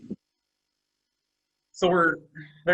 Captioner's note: male Voice